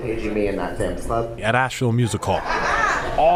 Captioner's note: laughter